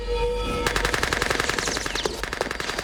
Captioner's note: gunfire